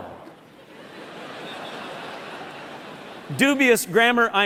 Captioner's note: laughter